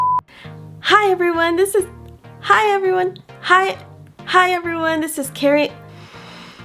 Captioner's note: sigh